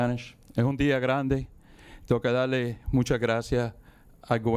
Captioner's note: speaking in Spanish